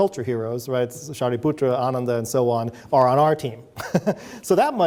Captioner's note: chuckles